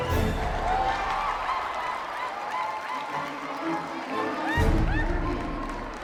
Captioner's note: crowd cheers and applauds